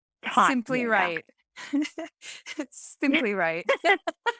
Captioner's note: laughing